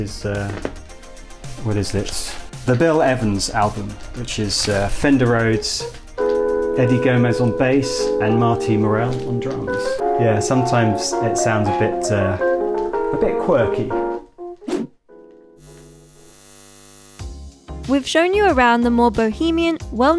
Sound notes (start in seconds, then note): 14.5 air whooshing; 15.6 electric buzzes